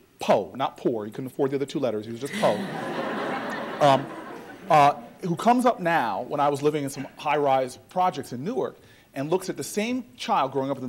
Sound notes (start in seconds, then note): 2.2 audience laughter